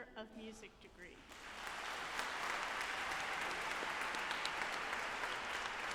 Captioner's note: audience applauding